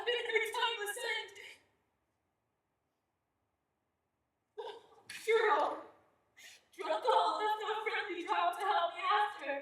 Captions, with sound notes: been very timeless and... (crying) Gerald! Gerald called to help me after.